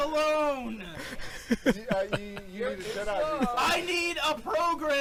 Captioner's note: chuckle; chuckles